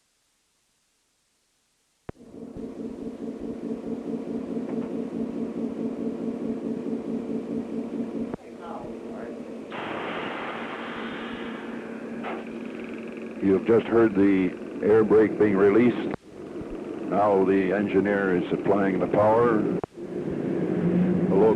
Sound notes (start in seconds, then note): 2.6 sound of train idling and break release